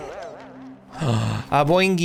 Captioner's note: gasps